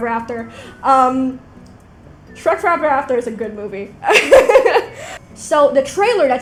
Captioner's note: laughs